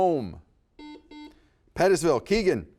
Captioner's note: buzzer beeps